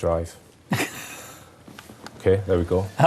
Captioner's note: laughing